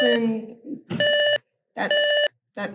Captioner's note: repeating beeps